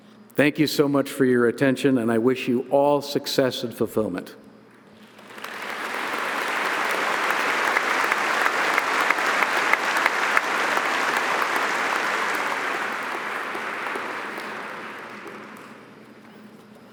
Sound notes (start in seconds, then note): 5.0 audience applauding